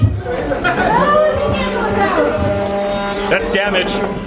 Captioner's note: robots whirring